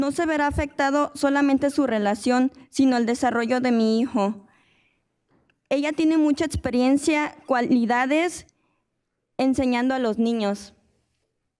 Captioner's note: speaking in spanish